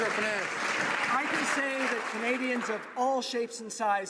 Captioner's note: some Applause